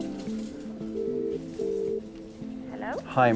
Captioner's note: phone ringing